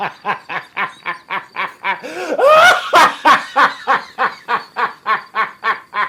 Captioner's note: laughing absurdly